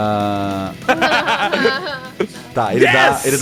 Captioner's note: laughter